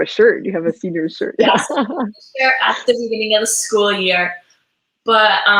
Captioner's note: voice muffled